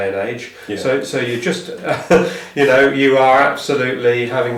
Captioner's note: laughs